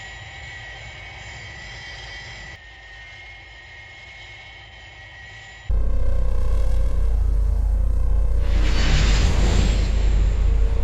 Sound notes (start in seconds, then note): 5.7 Royalteartia buzzing noises